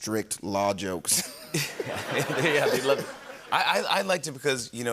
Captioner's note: laughter